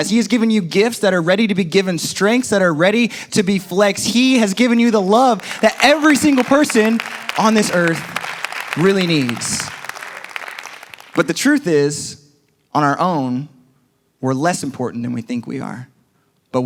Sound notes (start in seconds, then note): 4.9 congregation applauds